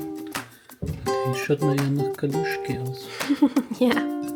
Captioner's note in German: gelächter